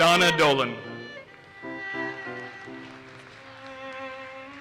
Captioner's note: audience applauses